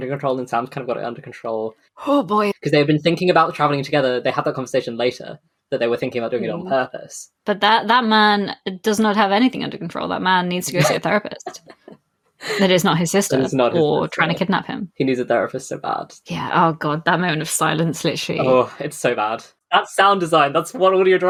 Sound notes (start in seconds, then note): 6.4 laughs